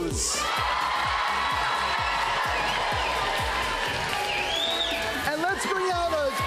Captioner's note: cheers and applause